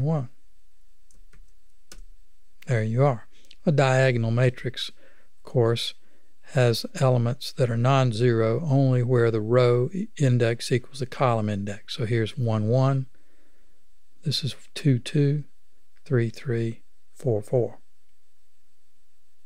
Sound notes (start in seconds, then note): 0.0 clicking; 1.0 click